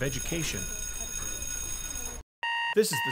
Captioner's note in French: cloche qui sonne